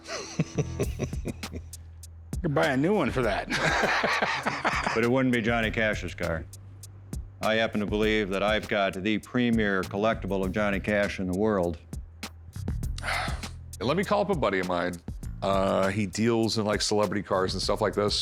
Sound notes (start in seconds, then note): 0.0 chuckling; 3.4 laughter